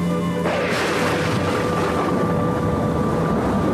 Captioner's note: thunderclap